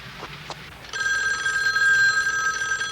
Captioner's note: phone ringing